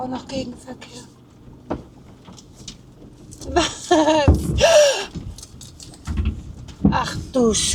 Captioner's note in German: gelächter